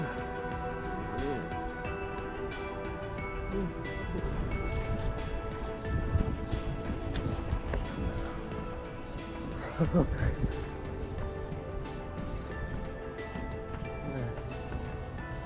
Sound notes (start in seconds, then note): 9.6 chuckles with excitement